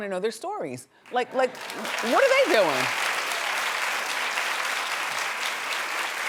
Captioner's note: audience claps